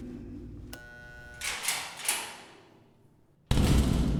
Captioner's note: door buzzes